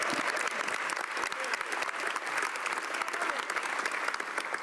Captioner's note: speaking French